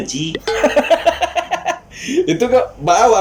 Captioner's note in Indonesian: tertawa